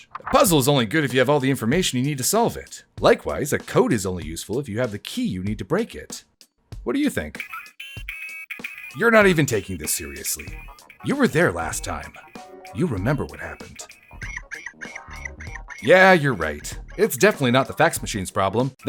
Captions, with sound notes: A puzzle’s only good if you have all the information you need to solve it! Likewise a code is only useful if you have the key you need to break it! What do you think? [C-GAL BEEPS] You’re not even taking this seriously! You were there last time! You remember what happened. [C-GAL SCREECH] Yeah you’re right, it’s definitely not the fax machine’s problem.